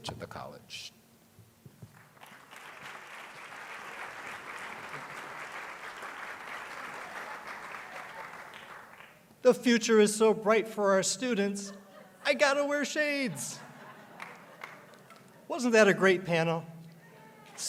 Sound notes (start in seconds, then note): 10.0 applause